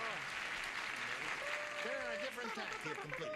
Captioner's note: applause